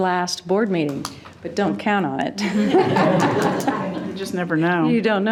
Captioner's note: all laughing